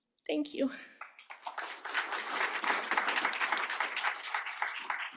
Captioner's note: applause